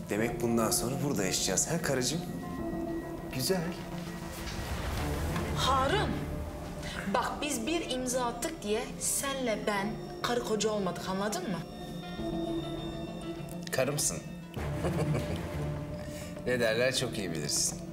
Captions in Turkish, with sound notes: Demek bundan sonra burada yaşayacağız, heh, karıcığım? Güzel. Harun! Bak biz bir imza attık diye, sen ile ben, karı koca olmadık. Anladın mı? Karımsın. (Gülüyor) Ne derler çok iyi bilirsin.